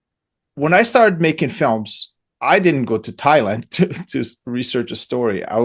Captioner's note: laughs